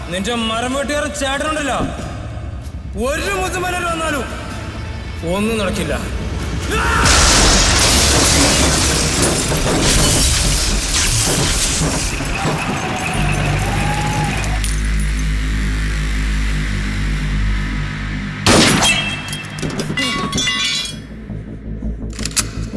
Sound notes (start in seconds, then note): 7.0 breaking Glasses; 18.4 gun Fire